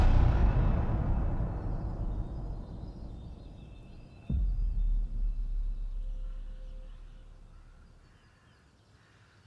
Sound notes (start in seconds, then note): 1.6 birds chirping; 7.4 crows cawing